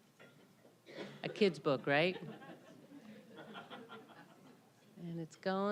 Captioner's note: audience laughing